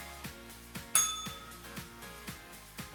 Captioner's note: bell rings